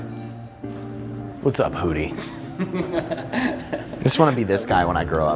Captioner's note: laughter